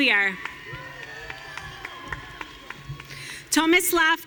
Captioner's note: audience cheering